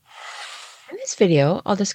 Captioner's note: sound effect